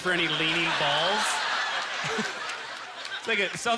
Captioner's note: audience laughter